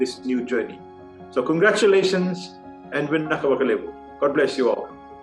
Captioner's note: non-english speech